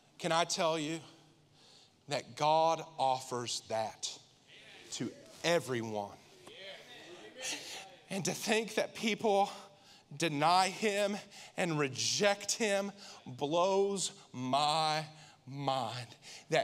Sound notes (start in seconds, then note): 6.6 congregation affirming